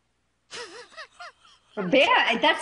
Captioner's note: laughs